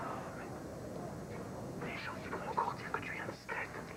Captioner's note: chuchotant